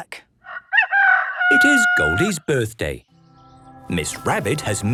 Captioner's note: rooster crowing